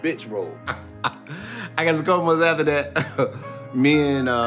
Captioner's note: laughing